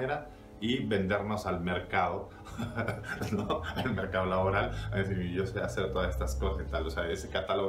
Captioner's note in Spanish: risas